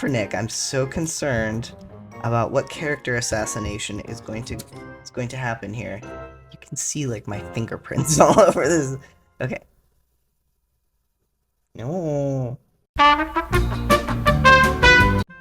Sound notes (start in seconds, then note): 8.0 laugh; 11.7 whining tone; 13.0 hold music